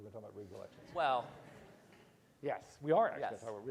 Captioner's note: audience laughs